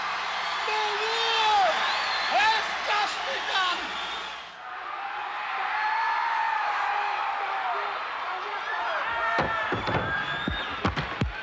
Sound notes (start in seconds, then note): 3.8 audience cheering